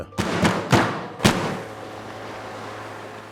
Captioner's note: table bangs